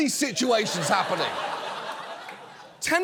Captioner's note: audience laughs